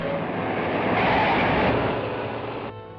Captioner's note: tires screeching